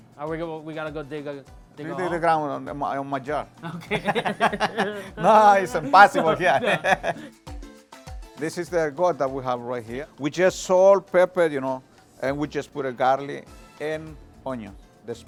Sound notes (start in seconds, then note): 3.6 both laugh